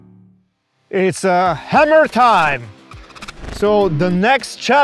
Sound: text beeps

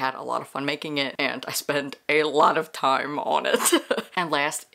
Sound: laughs

